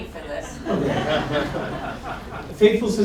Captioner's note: laughter